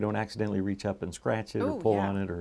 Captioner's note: winces